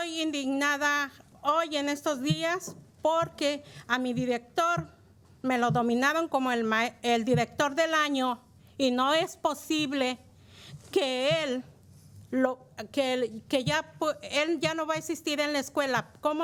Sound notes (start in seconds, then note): 4.0 speaking in spanish